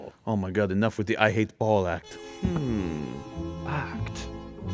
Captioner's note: none